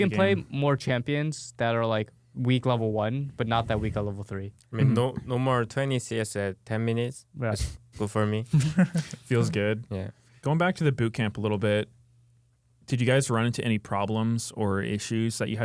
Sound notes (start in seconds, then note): 8.5 laughs